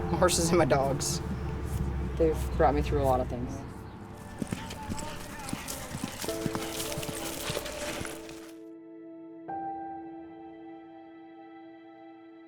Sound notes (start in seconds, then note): 4.3 event announcer speaking faintly; 6.2 gentle reflective music; 6.2 hooves plodding